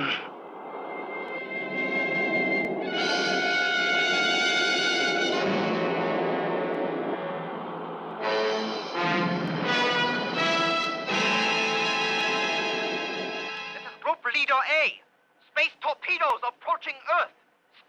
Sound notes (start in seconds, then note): 0.2 man grunts; 3.0 suspenseful orchestral music; 9.2 explosion booming